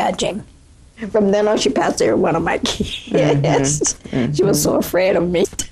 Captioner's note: laughter